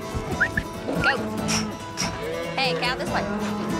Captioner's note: whistling